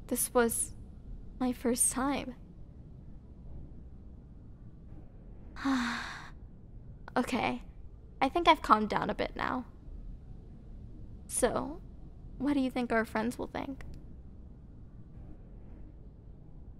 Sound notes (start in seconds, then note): 5.6 sigh